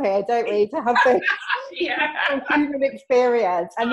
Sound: both mumbling

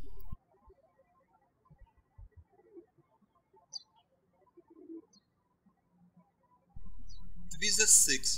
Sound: birds chirping

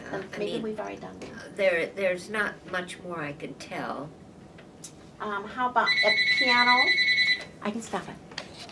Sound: phone rings

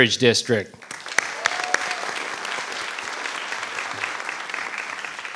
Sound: audience applauding

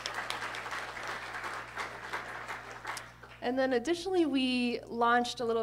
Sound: applause

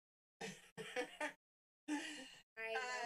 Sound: chuckling

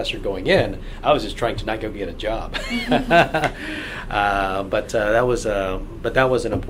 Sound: laughs

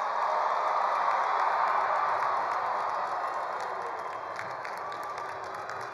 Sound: attendees cheering; attendees applauding

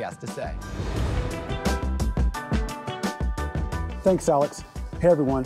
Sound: transition whooshing

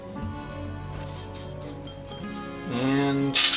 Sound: seeds rustle

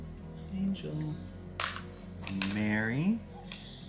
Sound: soft instrumental music; objects hitting

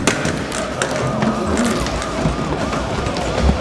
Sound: zombies clamoring; wood cracking; sirens wailing

